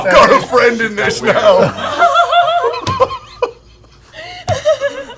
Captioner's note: laughing